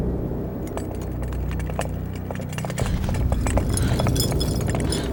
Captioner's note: candles rattling; chandelier rattling